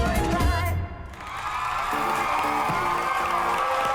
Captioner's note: applause